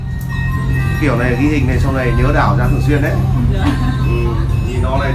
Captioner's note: laugh